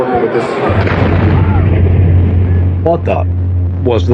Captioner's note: explplososion n